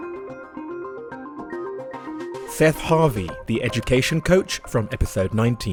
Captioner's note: voiceover